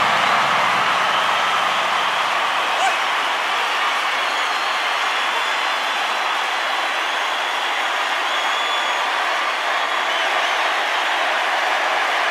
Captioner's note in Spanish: Aplausos y vítores